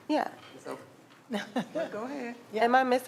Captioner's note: laughing